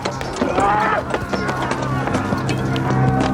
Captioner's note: yelling